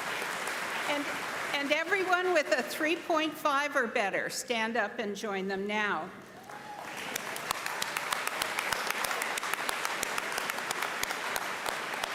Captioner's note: applause; applause